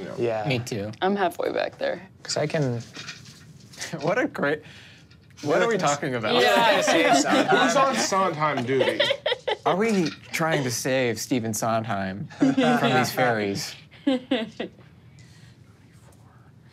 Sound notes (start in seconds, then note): 6.5 laughs